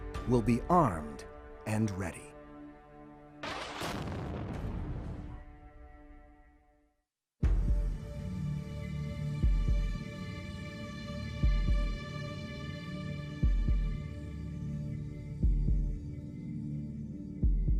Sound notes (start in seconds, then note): 3.4 explosion booming; 7.6 mysterious music